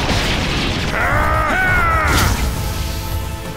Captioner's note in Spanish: Grita